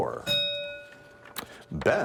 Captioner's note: bell ringing